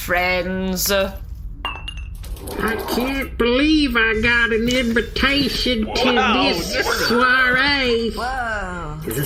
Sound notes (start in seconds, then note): 3.2 heavy accent